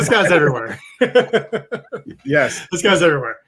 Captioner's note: laughing